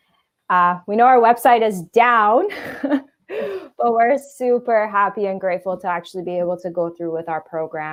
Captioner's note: chuckle